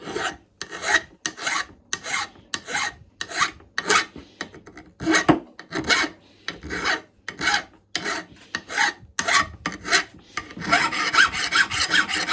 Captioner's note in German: Geräusch der Feile